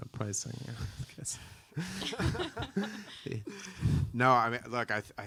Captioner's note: both laughing